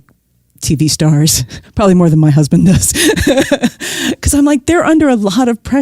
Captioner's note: guffaw